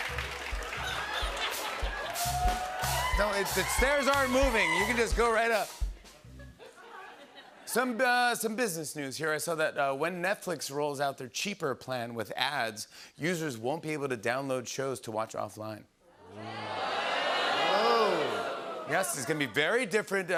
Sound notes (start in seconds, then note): 0.9 laughter; 16.3 audience groans